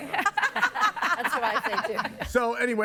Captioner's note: guests laughing